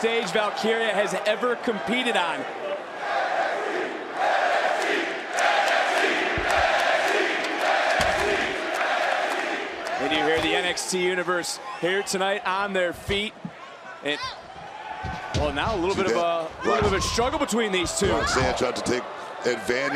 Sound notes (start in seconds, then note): 2.1 crowd chants "nxt"